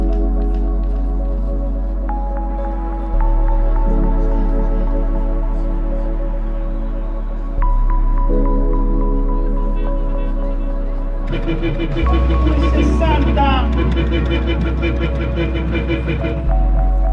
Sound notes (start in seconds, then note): 11.6 horn honking; 16.9 ambient music continues